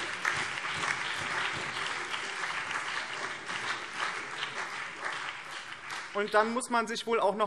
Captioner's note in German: Beifall BÜNDNIS 90/DIE GRÜNEN, SPD, vereinzelt CDU und DIE LINKE